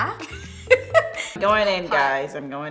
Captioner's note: laughter